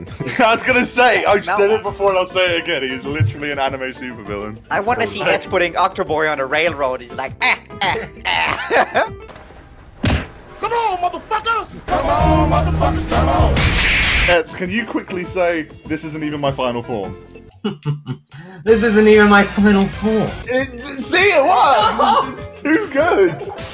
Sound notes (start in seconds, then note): 7.4 laughs Evil; 7.4 laughs happy